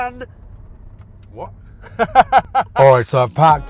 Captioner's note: laughing